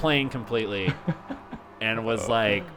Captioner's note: laughs